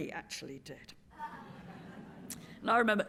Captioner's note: laughter